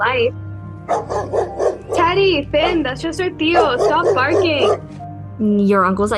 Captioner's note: dogs bark